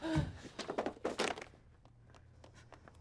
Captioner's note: Maria gasps; chair thuds; footsteps approaching